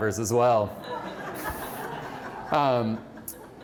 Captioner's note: laughter